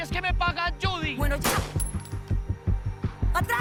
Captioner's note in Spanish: Disparo